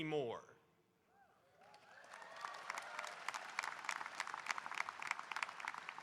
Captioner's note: audience cheering and applauding